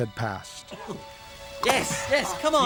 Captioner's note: coughing